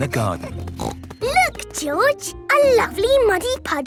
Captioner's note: snorting